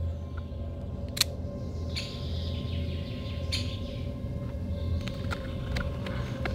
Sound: knife clicks; birds chirping

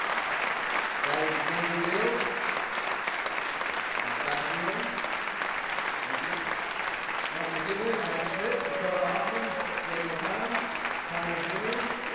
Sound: applause drowns speech

